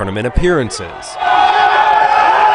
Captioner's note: players celebrating